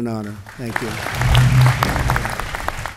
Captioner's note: applause